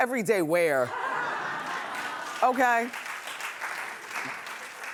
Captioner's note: laughing